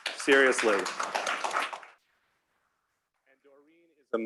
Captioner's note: applause